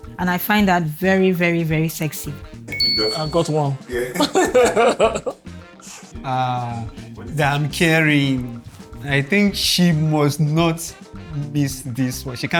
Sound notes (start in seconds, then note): 3.9 laughter